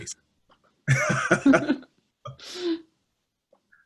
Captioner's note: laughter